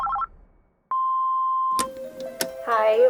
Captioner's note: phone rings; phone beeps